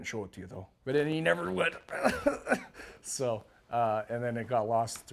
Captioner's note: laugh